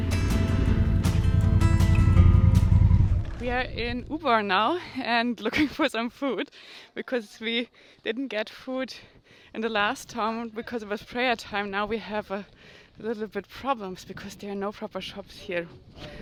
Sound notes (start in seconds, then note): 0.0 bike rumbling